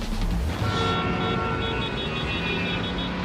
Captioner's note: car horns